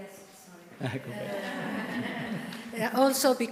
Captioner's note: audience chuckling